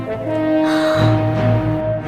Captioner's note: gasp in shock